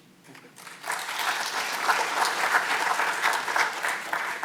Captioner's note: audience clapping